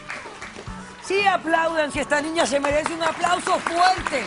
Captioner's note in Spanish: Aplausos